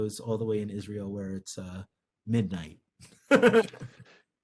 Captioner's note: laughing